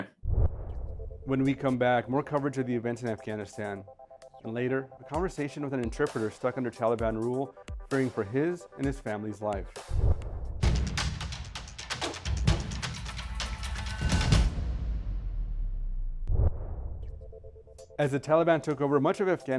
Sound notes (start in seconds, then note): 15.7 swoosh; 16.5 upbeat ambient music